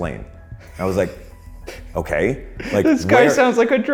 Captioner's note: laughs